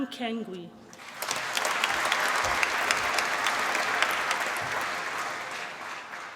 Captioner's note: applause